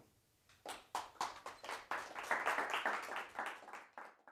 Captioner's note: applause